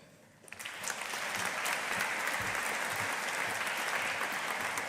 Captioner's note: audience applauding